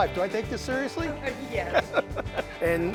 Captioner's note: chuckles